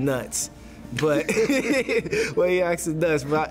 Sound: laughter

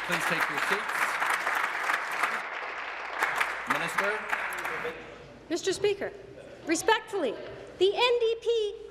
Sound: applause

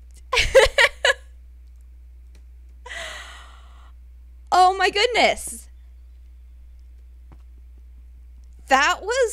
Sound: squeals and laughs

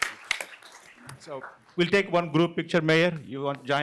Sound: applause

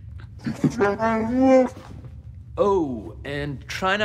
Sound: laugh; wookie speak

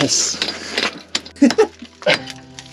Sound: both chuckling

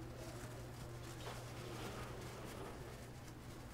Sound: paper rustles

